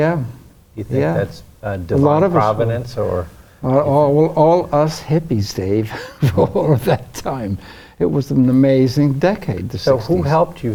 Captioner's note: laughs